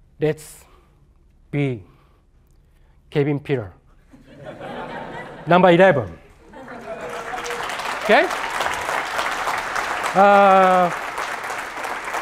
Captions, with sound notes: That's b, Kevin Pillar. [LAUGHTER] Number 11. [APPLAUSE] OK.